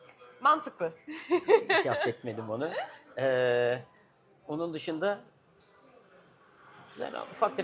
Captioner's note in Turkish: kahkaha